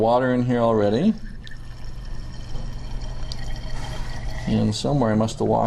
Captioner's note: pouring water